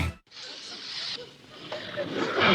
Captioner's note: sprays